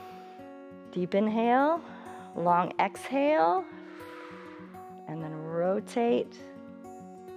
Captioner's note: exhales